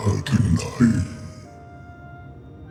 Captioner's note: speaking in foreign language